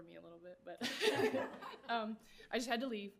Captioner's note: everyone laughing